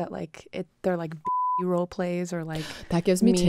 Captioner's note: beeping